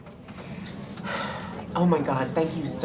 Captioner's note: sighs with relief